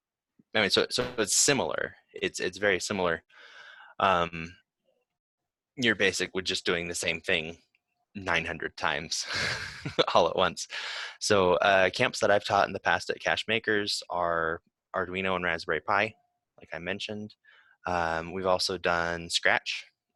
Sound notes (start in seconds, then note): 9.2 laughs